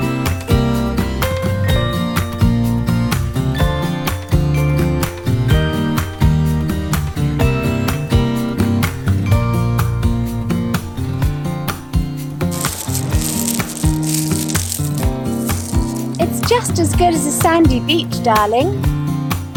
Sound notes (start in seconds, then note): 12.4 rocks crunching